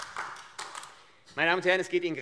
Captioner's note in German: Beifall AfD